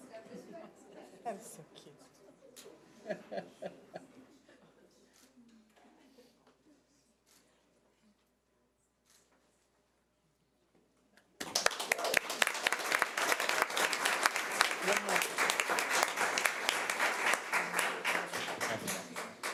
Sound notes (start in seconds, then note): 11.4 audience applause